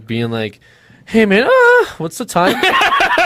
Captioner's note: gemido